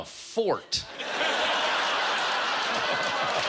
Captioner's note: laughter and applause